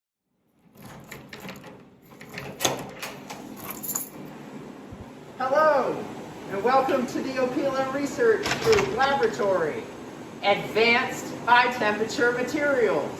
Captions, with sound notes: [UNLOCKING SOUND] >>Hello and welcome to the Opila Research Group Laboratory. Advanced High Temperature Materials!